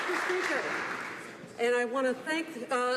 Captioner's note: some Applause